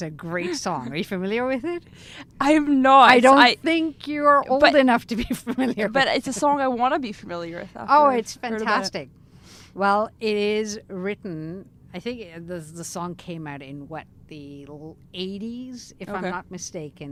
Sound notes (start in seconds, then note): 5.2 laughing